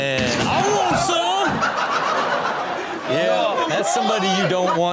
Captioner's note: man laughs hysterically